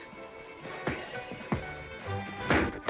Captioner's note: pop; pop, pop, pow